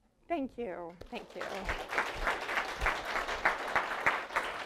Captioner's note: applause